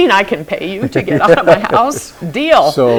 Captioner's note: laughs